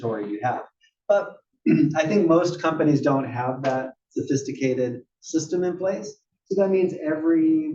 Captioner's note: cough